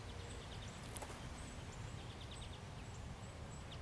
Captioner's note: birds chirping